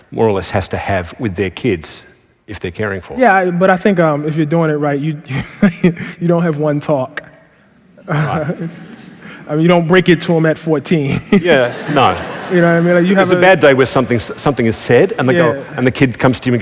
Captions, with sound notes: or less has to have with their kids if they're caring for them? >> Yeah, but I think if you're doing it right [laughing] you don't have one talk. [ Laughter ] I mean, you don't break it to them at 14. [Laughter] >> Yeah, no. >> You know what I mean? Like, you have a -- >> It's a bad day when something is said and the kid comes to you